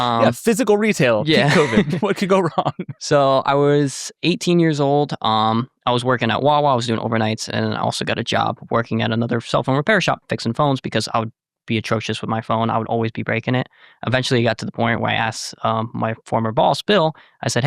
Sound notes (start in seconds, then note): 1.0 laughs